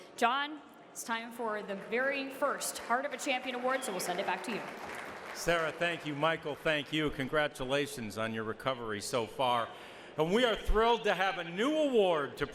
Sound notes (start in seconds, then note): 5.5 audience applauds